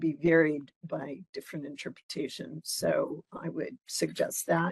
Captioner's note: none